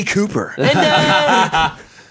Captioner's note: laughs